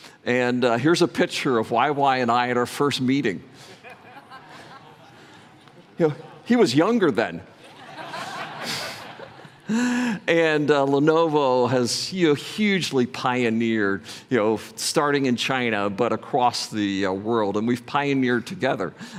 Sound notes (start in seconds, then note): 7.6 laughter